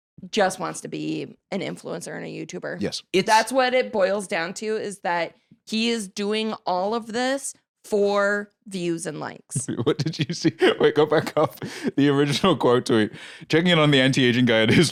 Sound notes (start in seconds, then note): 9.6 laughing; 14.6 both laughing